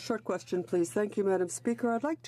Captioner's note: speaking French